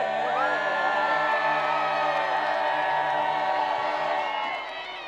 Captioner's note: crowd applause